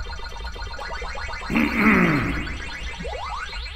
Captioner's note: clearing throat